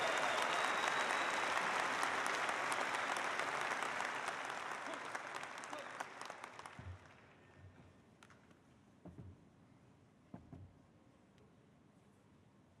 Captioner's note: applause